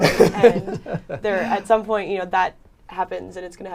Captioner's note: laughter